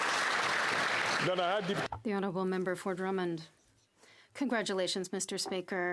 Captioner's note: applause